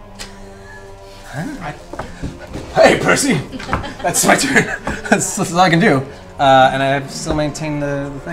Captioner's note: laughs